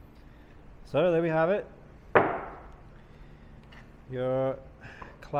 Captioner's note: metal clanking